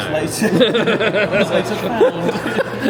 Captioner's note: men laughing